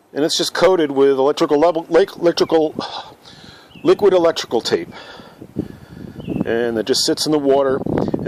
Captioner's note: huff